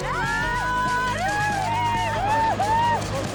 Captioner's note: cheering